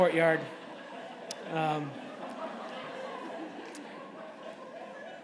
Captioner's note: laughter